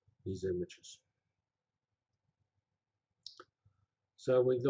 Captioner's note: pause